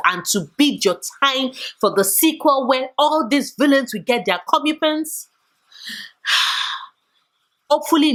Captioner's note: sigh